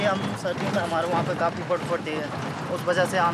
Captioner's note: foreign language spoken